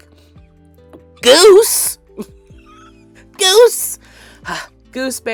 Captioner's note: exasperated sigh